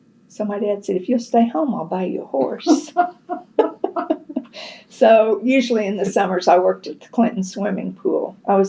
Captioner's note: laughs